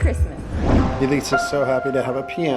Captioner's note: air whooshes